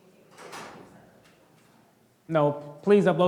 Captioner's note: door slamming drowns out speaking